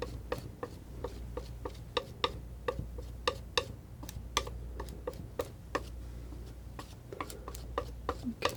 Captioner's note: tapping